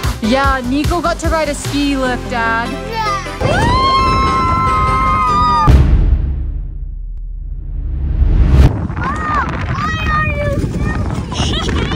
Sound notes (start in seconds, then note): 3.4 both happily screaming; 11.3 mom giggles